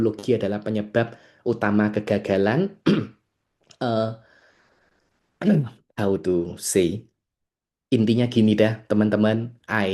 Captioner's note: berdehem